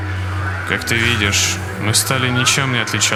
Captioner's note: screams of employees and breached abnormalities